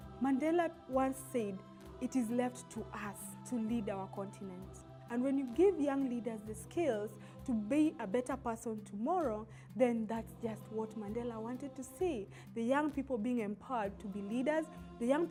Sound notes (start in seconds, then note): none